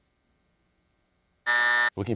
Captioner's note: buzzer sounds